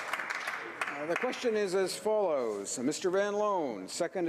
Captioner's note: applause